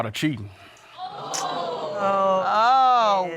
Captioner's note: audience exclaiming; tsks